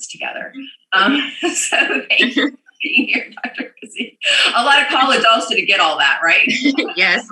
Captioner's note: laughs